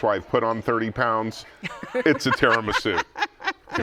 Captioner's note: laughs